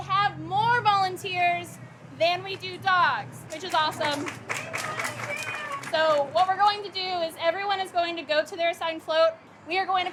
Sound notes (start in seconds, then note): 3.7 cheering and applause